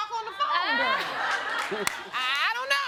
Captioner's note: all laughing